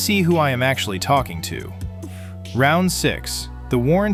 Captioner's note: thoughtful